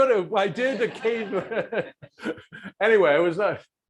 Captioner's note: laughter